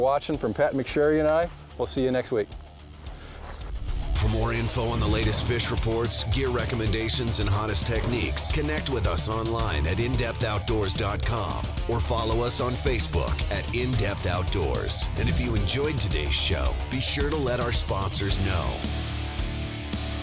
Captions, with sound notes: thanks for watching from Pat McSharry and I. We'll see you next week. - [Voiceover] For more info on the latest fish reports, get recommendations and hottest techniques. Connect with us online at in-depthoutdoors.com. Or follow us on Facebook at In-Depth Outdoors. And if you enjoyed today's show, be sure to let our sponsors know.